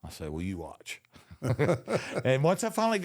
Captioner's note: both laugh